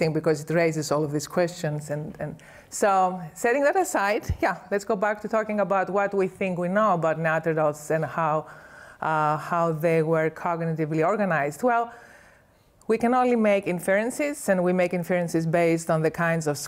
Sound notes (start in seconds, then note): none